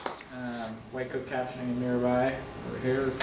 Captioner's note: applause